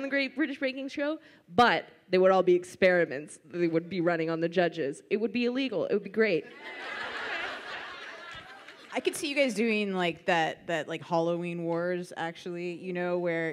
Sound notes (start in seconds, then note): 6.5 audience laughs